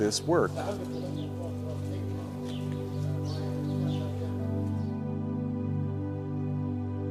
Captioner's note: gentle music; tourists chattering